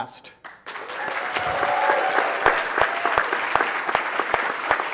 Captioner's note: audience applauding